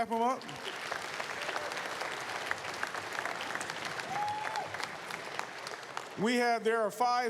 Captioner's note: applause